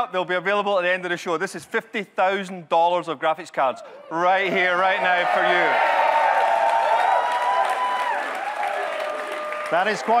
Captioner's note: audience cheers, chants